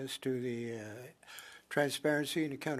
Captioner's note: speaking French